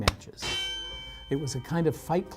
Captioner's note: boxing bell